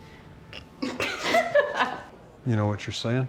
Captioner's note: women laugh